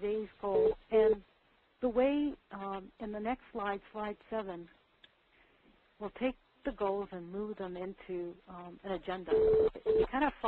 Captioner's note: beeping